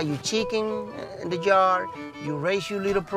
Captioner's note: speaking Spanish